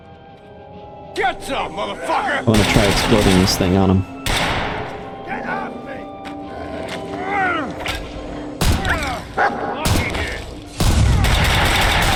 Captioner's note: gunshots